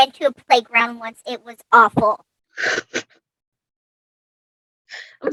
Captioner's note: laughs